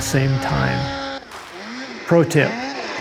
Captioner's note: sled engine roaring